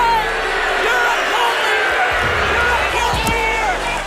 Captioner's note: crowd boos